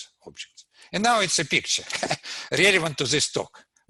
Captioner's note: laughs